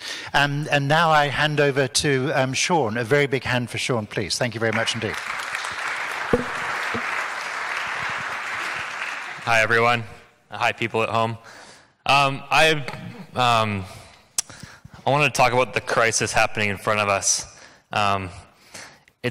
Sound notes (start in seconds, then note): 4.6 audience claps